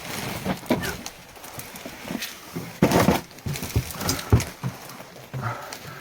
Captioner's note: grunting